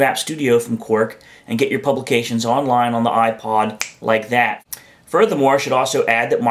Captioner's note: snaps fingers